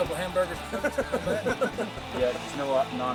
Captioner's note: laughing